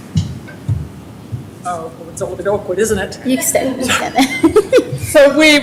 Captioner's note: laughter